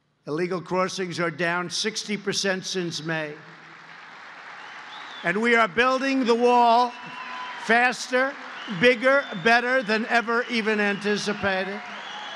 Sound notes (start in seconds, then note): 3.1 applause